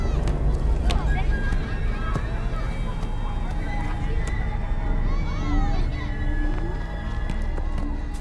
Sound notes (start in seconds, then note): 2.0 ball thwacking; 2.0 ball thuds; 5.2 foreboding music